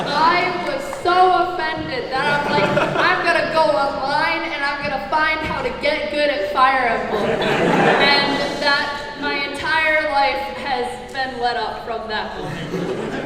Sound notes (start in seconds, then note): 0.0 everyone laughs; 6.9 audience laughs